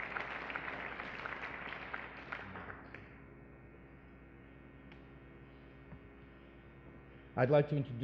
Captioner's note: applause